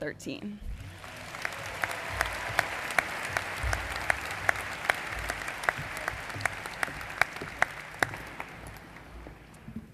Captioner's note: applause